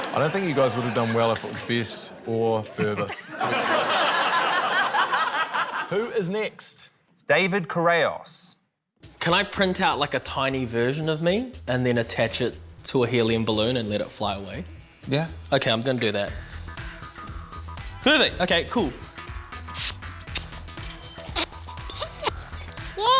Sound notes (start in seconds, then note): 2.7 laughter; 19.7 gas hisses; 21.3 inhales